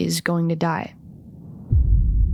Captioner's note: wind murmurs; ominous music